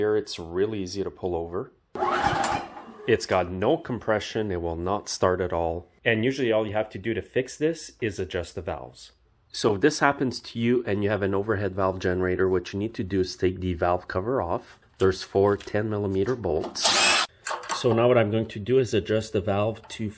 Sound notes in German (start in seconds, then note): 2.0 Maschine brüllt; 16.8 Maschine kreischt